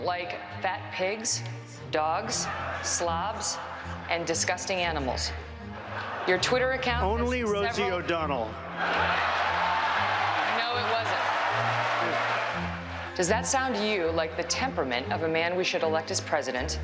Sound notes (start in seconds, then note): 8.7 cheers and applause